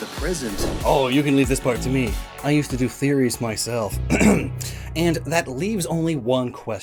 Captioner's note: ahem